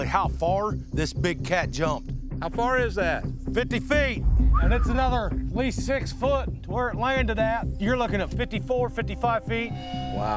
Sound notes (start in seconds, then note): 4.4 whistling